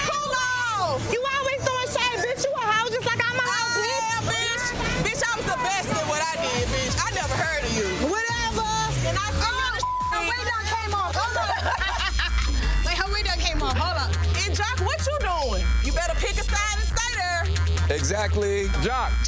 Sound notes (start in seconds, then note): 9.7 beep; 11.0 laughing